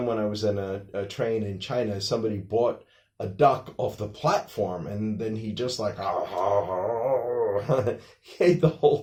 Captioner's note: devouring sounds